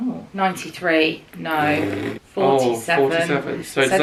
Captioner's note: blowing raspberry